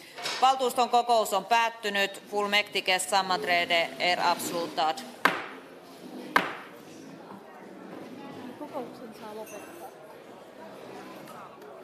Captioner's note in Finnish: nuijan kopautus